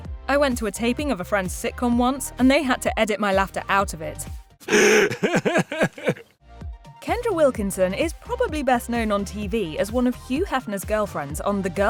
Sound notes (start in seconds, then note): 4.7 laughing